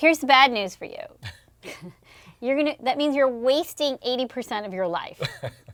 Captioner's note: laugh